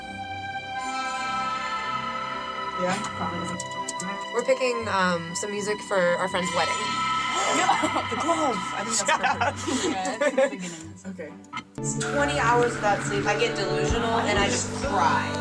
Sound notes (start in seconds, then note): 7.7 gasps; 9.0 laughing